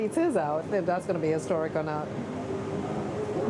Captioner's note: none